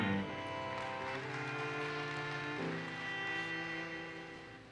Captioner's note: audience applauses